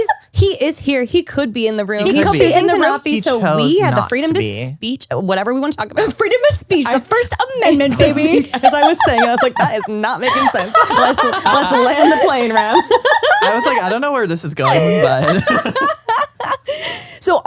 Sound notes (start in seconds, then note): 13.0 all laugh